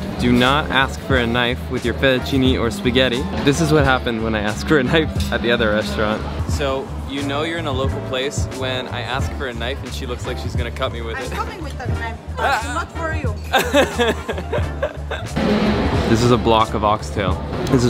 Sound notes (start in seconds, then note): 13.4 laughs